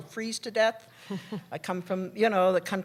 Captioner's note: laughter